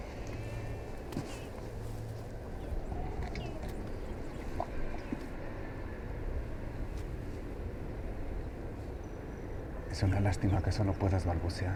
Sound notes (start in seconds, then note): 3.6 birds chirping